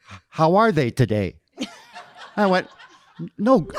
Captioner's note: audience laughing